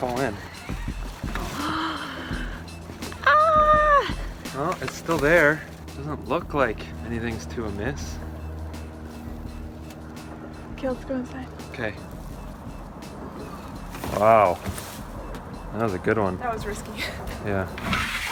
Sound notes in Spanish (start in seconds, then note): 1.5 jadeos